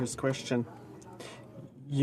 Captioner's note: speaking French